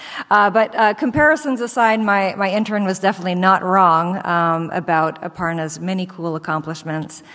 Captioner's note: none